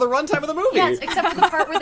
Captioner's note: laughs